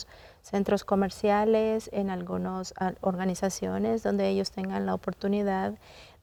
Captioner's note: continues speaking in Spanish